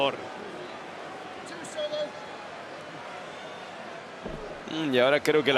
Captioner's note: applause